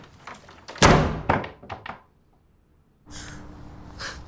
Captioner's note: door slams